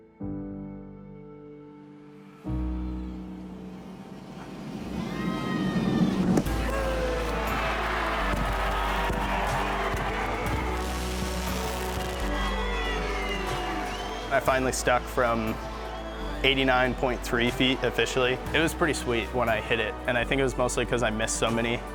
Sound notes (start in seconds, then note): 0.1 somber music; 5.2 crowd cheering; 9.5 upbeat music